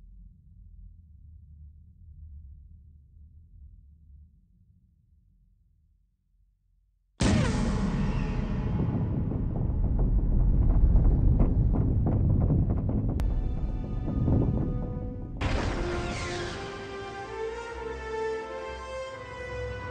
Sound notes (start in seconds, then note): 7.7 explosion